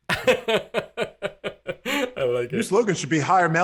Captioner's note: laughing